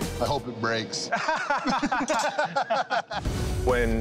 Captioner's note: laughter